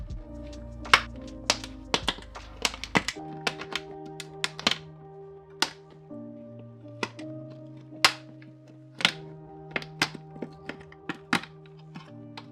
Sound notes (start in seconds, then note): 0.7 soft music; 5.5 banging